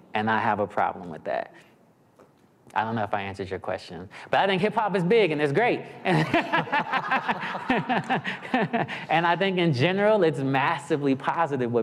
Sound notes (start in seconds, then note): 6.2 audience laughing